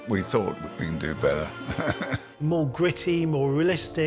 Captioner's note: chuckles